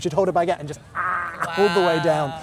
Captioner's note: swallowing entire baguette